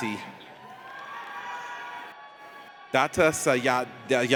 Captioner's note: audience cheers